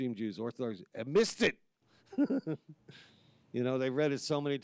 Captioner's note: chuckles